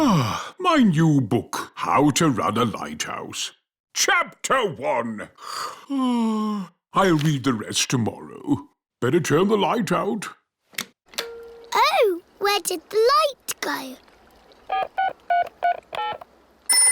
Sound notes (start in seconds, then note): 5.8 yawns; 15.2 dialing